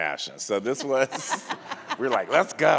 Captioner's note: audience laughs